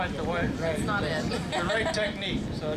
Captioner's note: laughs